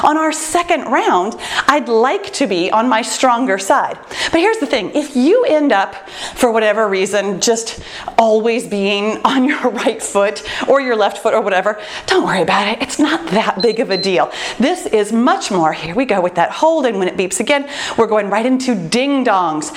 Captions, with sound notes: On our second round, I’d like to be on my stronger side. But here’s the thing, if you end up for whatever reason, just always being on your right foot or your left foot or whatever, don’t worry about it, it’s not that big [timer beeps] of a deal. This is much more. Here we go with that. Holding when it beeps again, we’re going right into ding-dongs,